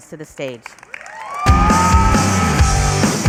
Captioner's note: applause and cheering